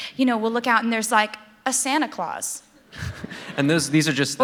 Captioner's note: laughter